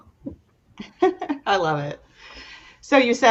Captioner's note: giggles